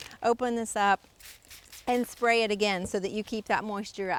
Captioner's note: water sprays